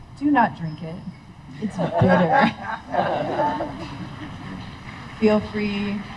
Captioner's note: laughter